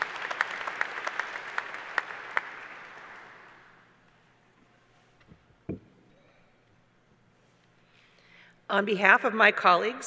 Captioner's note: applause